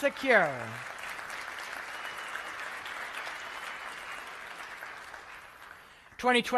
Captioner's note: applause